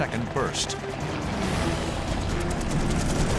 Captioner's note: gunshots